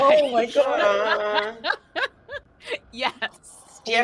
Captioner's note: laughs